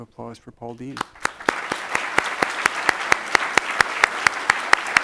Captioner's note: audience applauds